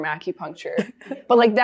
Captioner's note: chuckling